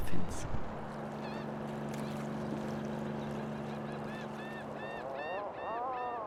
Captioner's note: engine revving; birds chirping